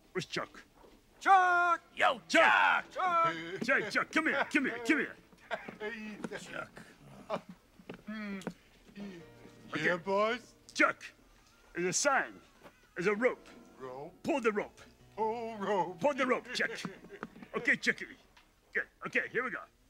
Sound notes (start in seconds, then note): 1.2 yells; 6.2 laughs; 7.9 sighs; 8.0 Chuck humming; 16.2 laughs